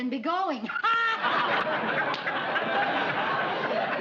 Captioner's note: laughter